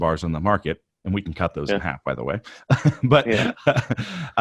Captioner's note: laughs